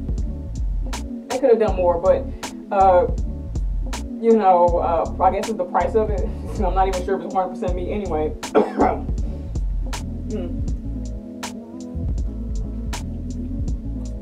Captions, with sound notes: They could have done more but I guess with the price of it, i'm not even sure it's 100 percent meat anyway..(cough)